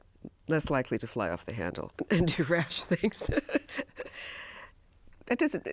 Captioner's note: laughs